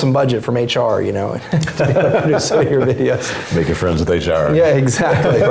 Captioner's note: laugh